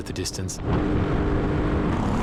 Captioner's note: engine revving